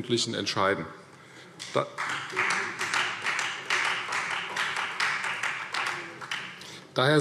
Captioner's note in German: Beifall Freie Demokraten und vereinzelt SPD